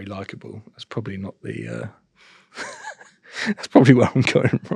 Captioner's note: chuckles